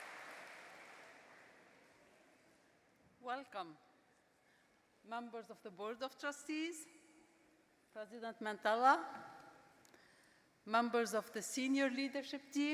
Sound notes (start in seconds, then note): 2.7 applause